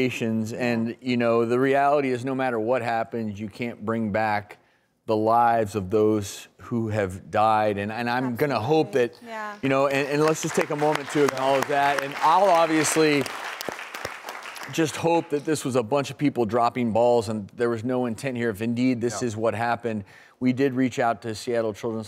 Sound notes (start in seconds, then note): 9.7 audience applauding